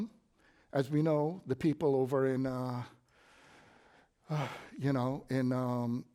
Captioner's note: sigh